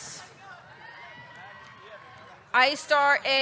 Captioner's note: audience cheering